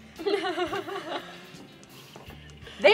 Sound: helpless laughter

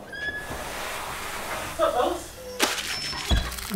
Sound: door squeaking open

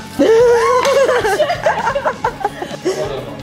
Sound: laughs

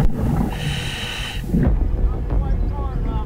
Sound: diver inhaling; dramatic music

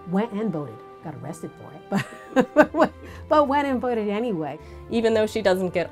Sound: laughs

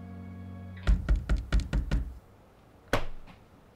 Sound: knocking

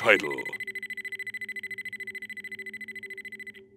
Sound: machine beeps

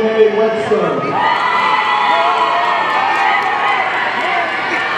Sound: audience cheering

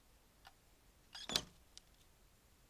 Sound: mice squeak

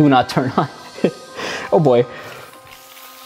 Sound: chuckles

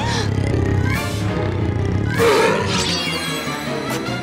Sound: gasps; growls

